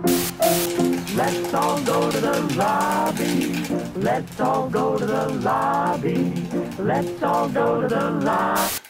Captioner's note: popcorn popping and cheerful music